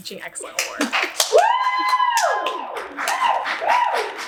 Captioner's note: audience cheers